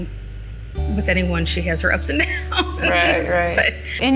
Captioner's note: laugh